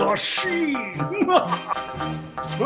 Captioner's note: evil laugh